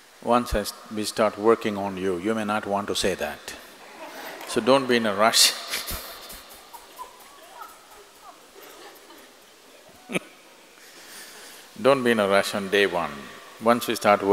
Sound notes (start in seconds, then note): 3.8 laughter; 9.7 laughs